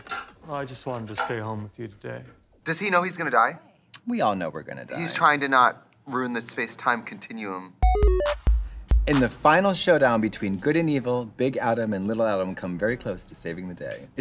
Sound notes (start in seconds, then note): 7.8 retro video game sound effects